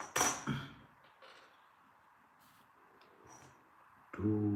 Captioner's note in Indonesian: berdehem